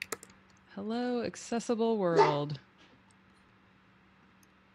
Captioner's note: dog softly barks